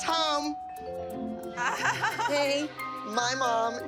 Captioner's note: moms laugh